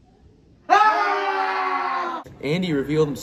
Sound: intense battlecries

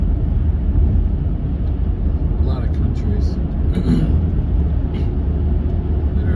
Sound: clears throat

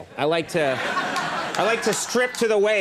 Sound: audience laughing

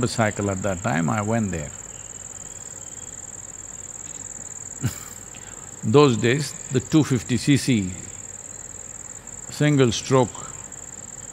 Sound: laughs

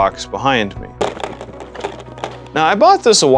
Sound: Lego rattling

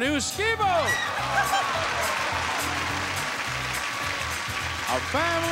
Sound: audience applauding; giggling

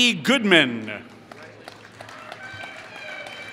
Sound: applause

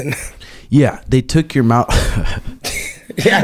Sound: laughs

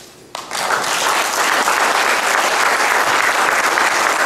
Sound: audience clapping

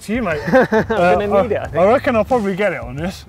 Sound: laughs

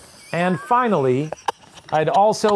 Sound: laughing

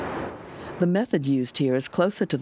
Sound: voiceover

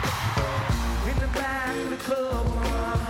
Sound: screams

